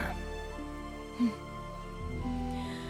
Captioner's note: Resopla